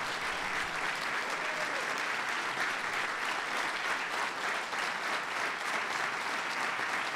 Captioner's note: applause